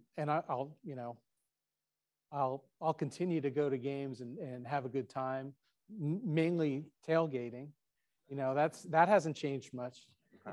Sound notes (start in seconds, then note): none